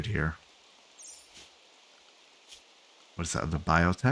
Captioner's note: silence